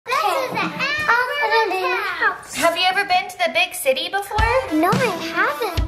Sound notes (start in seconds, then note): 0.1 voiceover